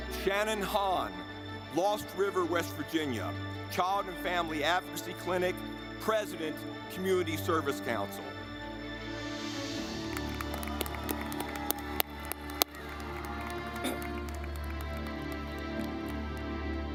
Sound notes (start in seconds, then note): 8.7 dramatic music; 9.8 audience clapping